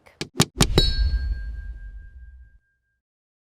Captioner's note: bell dinging